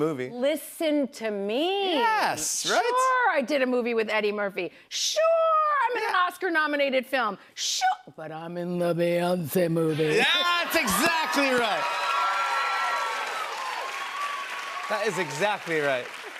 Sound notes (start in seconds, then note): 10.2 cheers and applause